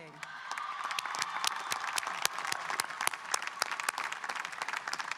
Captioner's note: audience cheering and applauding